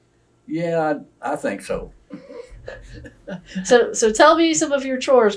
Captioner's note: laughter